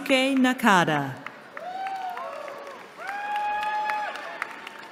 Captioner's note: cheering